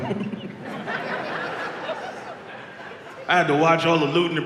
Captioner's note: audience laughs